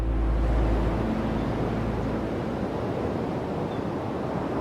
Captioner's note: waves rumbling